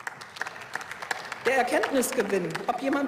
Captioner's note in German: Beifall